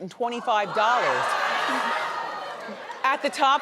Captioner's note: audience gasps